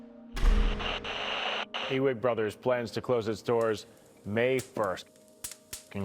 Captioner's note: static hissing